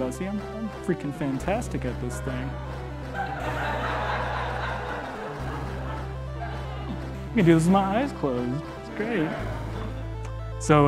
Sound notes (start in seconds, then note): 3.0 audience laughing